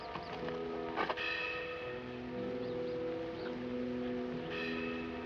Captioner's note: bell clanking